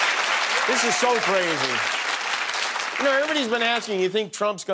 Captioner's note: cheers and applause